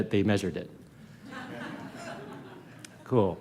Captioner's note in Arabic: ضحك